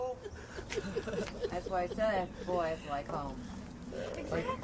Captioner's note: laughing